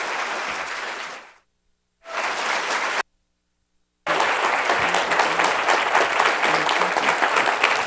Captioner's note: applause